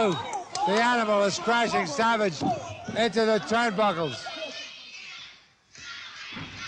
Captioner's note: audience shouting